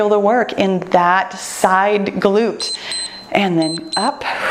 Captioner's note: timer beeps